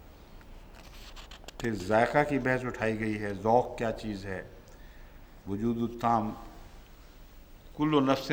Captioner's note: Arabic